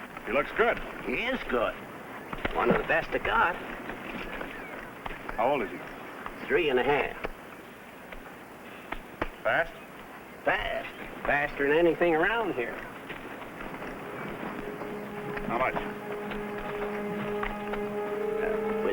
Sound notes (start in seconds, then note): 4.1 birds chirping; 16.7 dramatic music